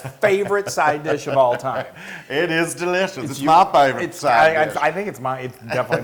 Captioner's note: laugh